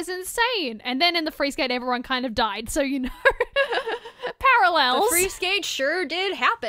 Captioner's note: laughter